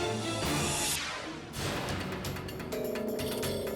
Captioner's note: air whooshes